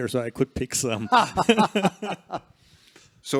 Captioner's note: laughter